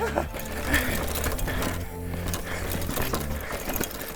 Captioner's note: bike rattling